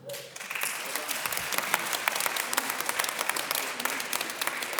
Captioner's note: audience applause